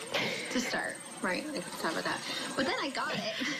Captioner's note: laughter